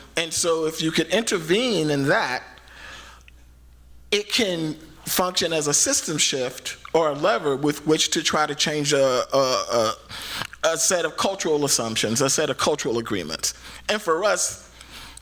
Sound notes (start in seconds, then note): none